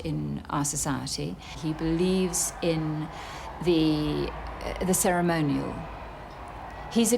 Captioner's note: audience cheering